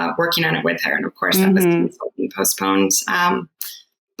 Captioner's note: murmurs